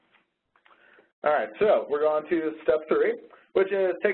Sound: voiceover

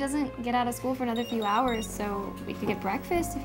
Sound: cell phone rings

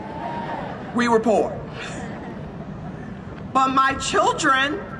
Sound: laughs

